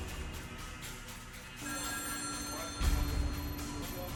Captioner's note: phone rings